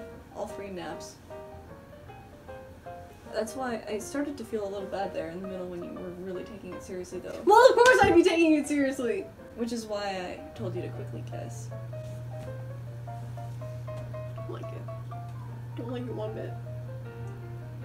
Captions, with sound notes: All three naps. That's why – I started to feel a little bad there in the middle when you were really taking it seriously, though. –[yelling] Well, of COURSE I'd be taking it seriously! –Which is why I...told you to quickly guess. –[quietly] Don't like it. Don't like it one bit.